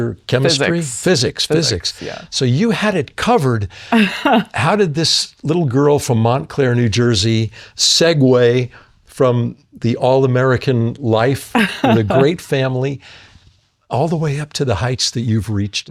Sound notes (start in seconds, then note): 3.9 laughs